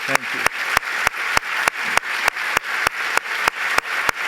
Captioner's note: applause